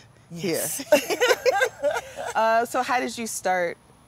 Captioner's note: both laugh